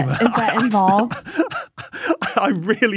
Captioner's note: wheezes